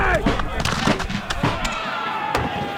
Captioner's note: men shouting